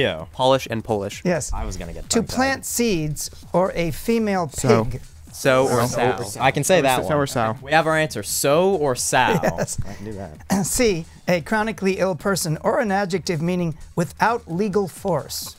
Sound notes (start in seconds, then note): 5.3 wispering